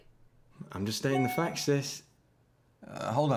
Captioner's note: computer beeps